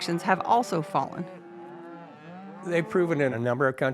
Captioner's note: cows mooing